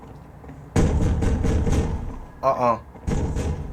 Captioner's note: banging on the door